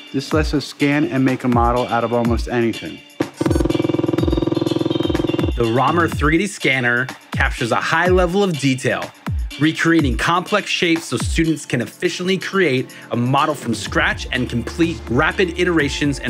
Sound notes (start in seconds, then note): 3.2 machine buzzing